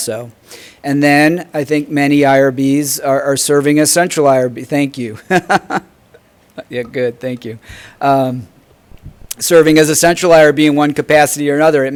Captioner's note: haha